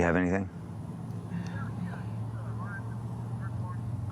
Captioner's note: on phone